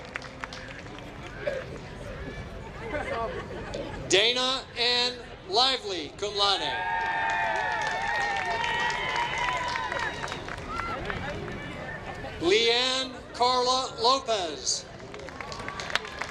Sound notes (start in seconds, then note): 7.0 applause